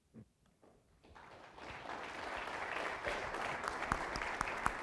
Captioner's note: audience clapping